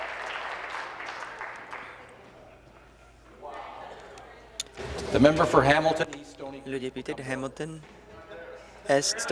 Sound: applause

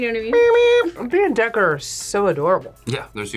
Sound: imitates beeping

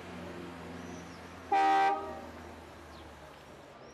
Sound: horn

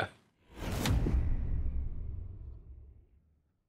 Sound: whooshing

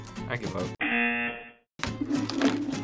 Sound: buzzer rings

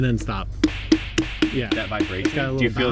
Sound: hand smacking watermelon

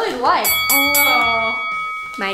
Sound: fighting bell rings

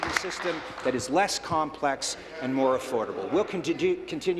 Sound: applause

